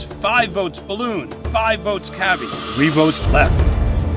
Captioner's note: none